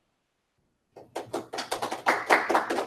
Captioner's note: applause